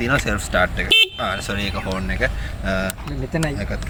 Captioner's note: honk